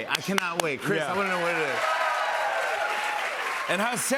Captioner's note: cheers and applause